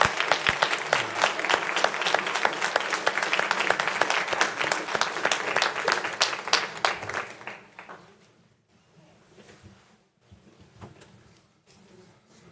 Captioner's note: applause